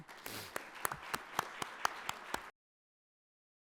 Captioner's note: audience applauds